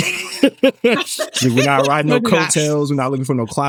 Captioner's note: laughing